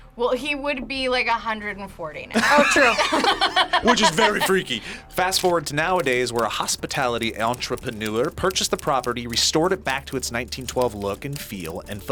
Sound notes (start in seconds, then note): 2.3 both laugh